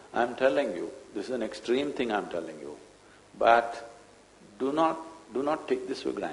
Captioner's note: none